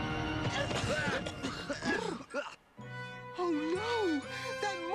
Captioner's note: coughing